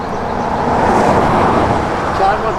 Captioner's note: vehicle engine revving